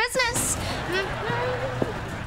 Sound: humming

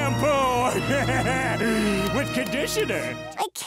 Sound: laughing

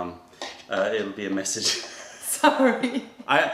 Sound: laughter

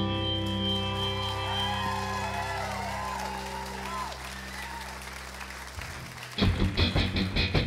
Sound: applause

